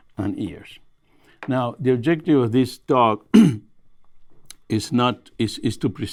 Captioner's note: clears throat